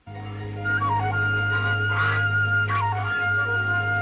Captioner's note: honking